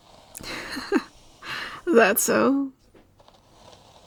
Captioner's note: laughing